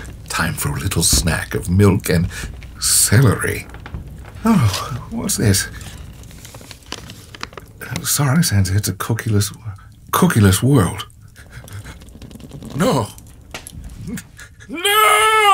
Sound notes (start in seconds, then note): 6.0 paper rustling